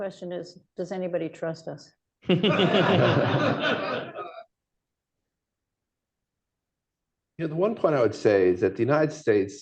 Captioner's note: laughter